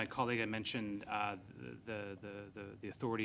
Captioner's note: speaking french